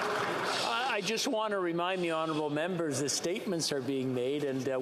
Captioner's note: some Applause